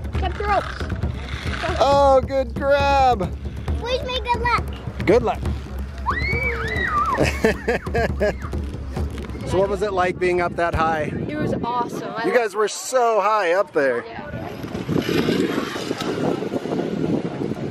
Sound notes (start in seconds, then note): 6.0 child screams; 7.1 laughs